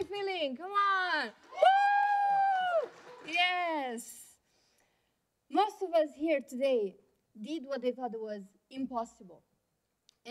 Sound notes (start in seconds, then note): 1.4 cheering